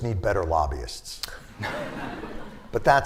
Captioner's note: laughter